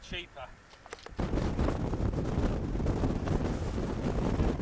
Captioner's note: wind